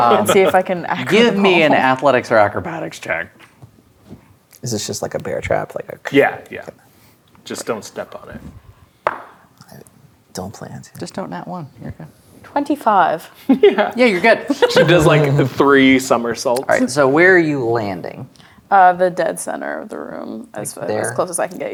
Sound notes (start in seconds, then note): 8.5 dice rolling; 14.2 laughing